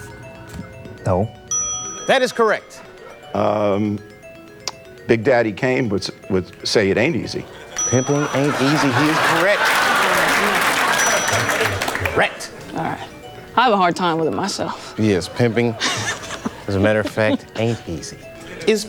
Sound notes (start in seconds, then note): 9.9 audience cheers; 9.9 bell dings